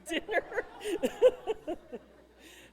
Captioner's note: laughter